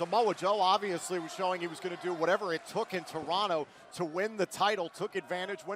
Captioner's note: crowd cheering